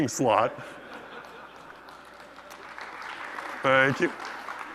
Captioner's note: applause